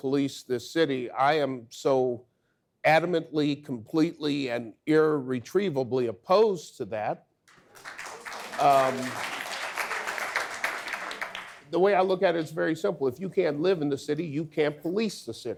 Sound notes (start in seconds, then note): 7.5 audience applause